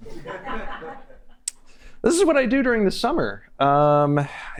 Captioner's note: laughter